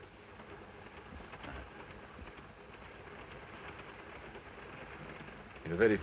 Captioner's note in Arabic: صوت خشخشة القطار